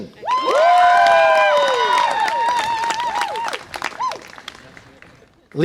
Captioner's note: audience applause and cheer